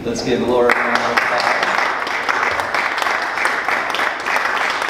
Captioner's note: clapping